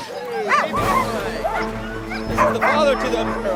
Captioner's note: dogs barking; suspenseful music